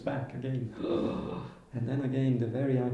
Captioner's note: gasps